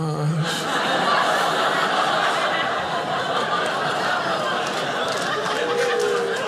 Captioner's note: audience laughing